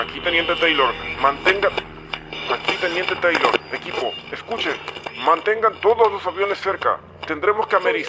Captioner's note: interference